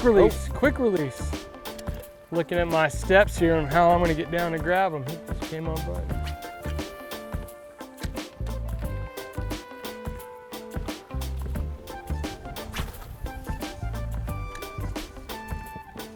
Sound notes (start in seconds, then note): 6.2 rod swishing; 9.6 cheerful music continues; 11.8 rod swishing